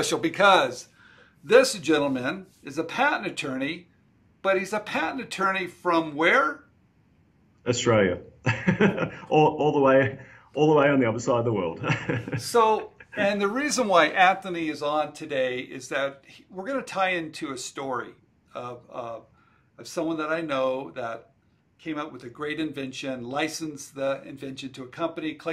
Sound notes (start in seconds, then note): 8.4 laughs